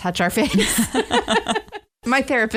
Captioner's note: laughter